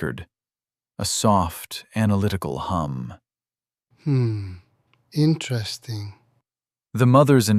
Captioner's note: quiet, clinical